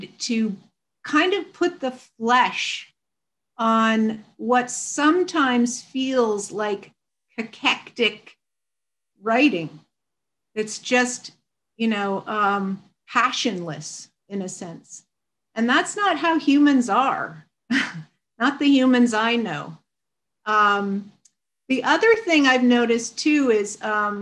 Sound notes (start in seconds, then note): 17.7 chuckles